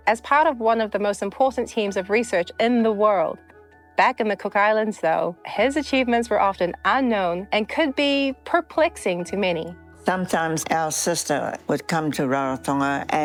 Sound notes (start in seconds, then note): none